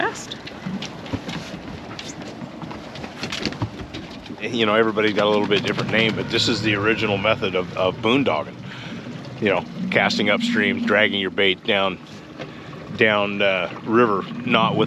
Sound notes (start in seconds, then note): 0.5 rusting; 2.6 boat engine running